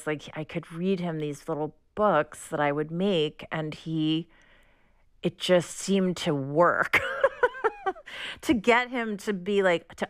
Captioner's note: laughter